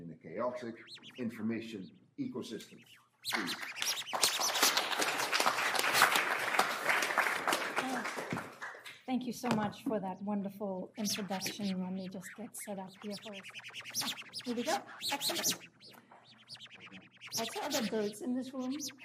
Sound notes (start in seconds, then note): 4.3 applause